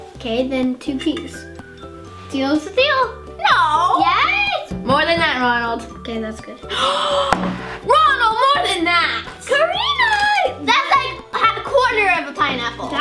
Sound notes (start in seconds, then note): 6.7 gasps